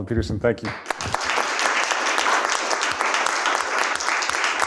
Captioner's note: applause